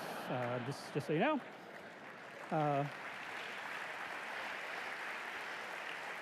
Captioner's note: applause